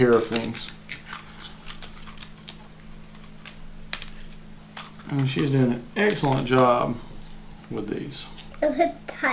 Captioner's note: giggling and unintelligible child-speak